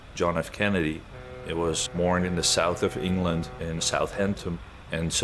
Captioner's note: ship horn